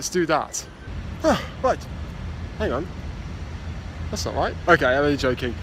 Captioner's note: sighs